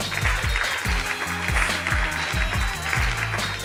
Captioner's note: applause